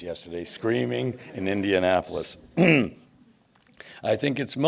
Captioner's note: clears throat